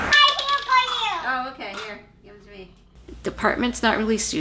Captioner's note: household chatter